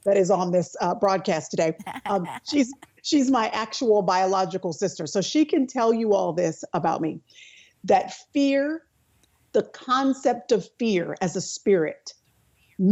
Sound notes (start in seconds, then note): 1.8 laughing